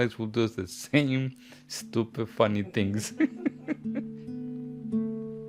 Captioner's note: laughs